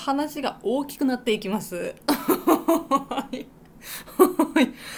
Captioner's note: laughs